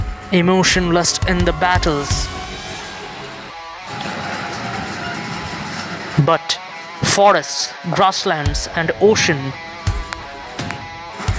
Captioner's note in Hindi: तालियाँ